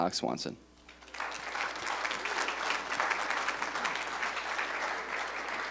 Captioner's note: applause